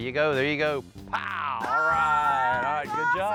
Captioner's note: cheering